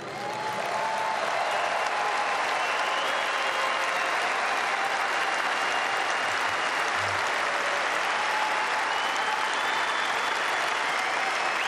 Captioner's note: applause